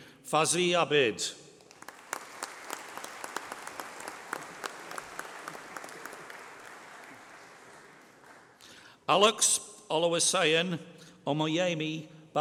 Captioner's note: applause